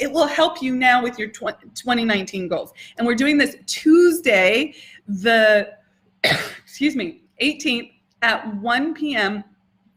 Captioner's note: coughs